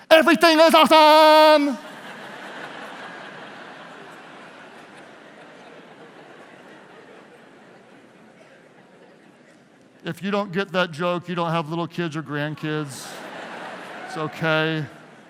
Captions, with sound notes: "everything is awesome." (laughing) If you don't get that joke, you don't have little kids or grandkids, it's okay.